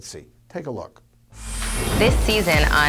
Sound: waves crash

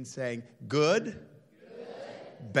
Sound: crowd

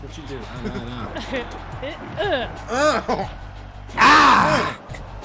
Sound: laugh

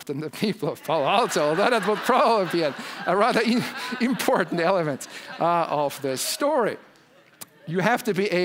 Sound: laugh

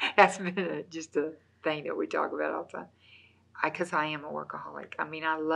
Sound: laughs

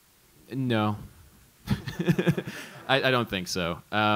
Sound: laughs

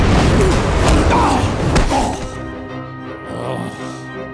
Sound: groaning

